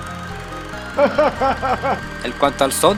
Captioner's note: laughs in spanish